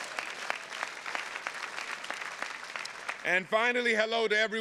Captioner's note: attendees clapping